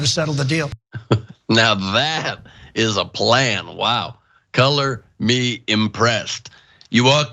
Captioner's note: laugh